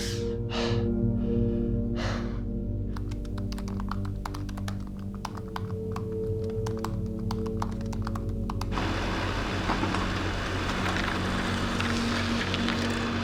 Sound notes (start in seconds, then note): 0.8 tense music; 8.9 printer humming